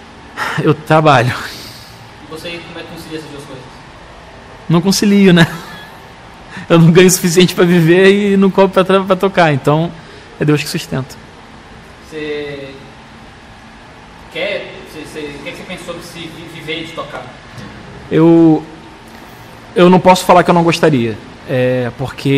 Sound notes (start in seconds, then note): 5.3 laughs